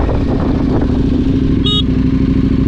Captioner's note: Beep